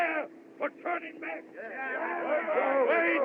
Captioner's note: affirming Shouts